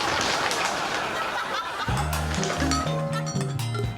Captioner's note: audience laughing